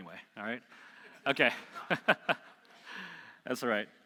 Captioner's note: laughing